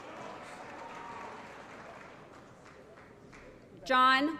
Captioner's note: applause